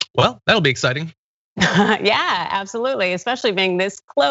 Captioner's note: laugh